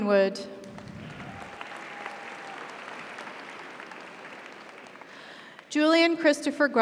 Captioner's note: audience applauds; audience cheers